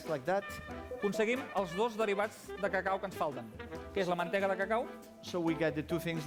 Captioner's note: non-english speech